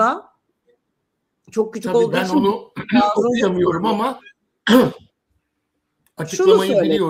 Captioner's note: boğazını temizler